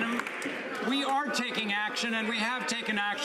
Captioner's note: some Applause